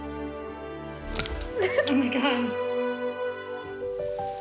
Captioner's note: glasses breaking